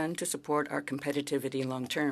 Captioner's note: speaking French